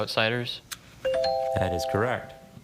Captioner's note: bell chimes